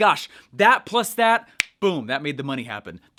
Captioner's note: snaps